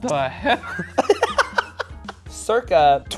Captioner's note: laughs